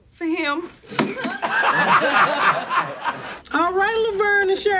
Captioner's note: audience laughs